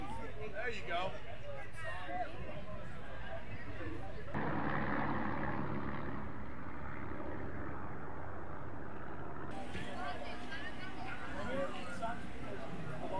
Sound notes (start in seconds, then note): 4.6 planes flying; 9.5 crowd chattering